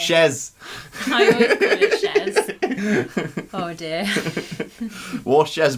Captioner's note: laughter